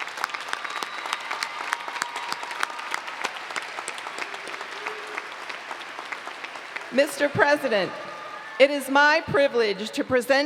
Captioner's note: applause